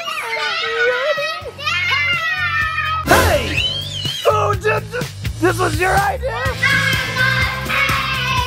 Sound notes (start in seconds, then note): 0.0 children shouting excitedly; 4.3 screaming